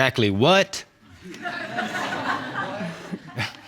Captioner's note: audience laughing